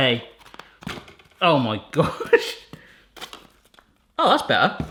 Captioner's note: laughing